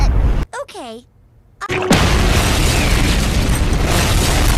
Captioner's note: explosions